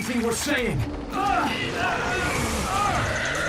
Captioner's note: groaning